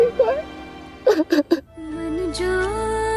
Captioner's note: sobbing